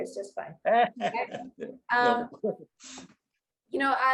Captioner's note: both chuckle